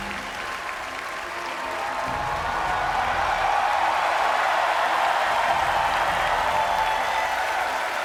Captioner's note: audience cheers